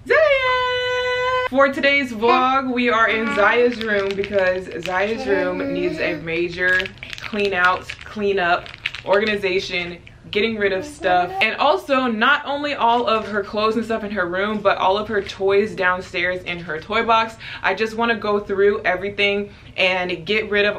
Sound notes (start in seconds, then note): 3.0 babbling